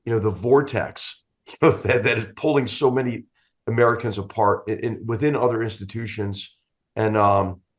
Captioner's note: laugh